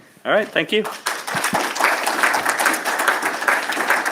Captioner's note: applause